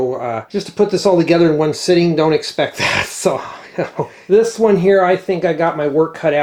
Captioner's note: snorts